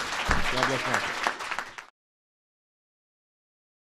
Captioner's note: applause